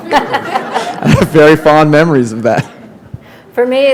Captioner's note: laughter